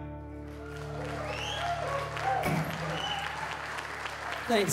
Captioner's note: applause